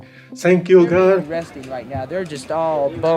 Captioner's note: archival news audio